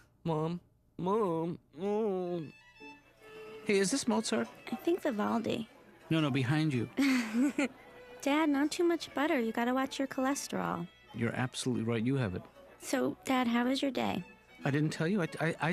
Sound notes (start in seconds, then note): 3.6 violin music playing; 7.0 laughs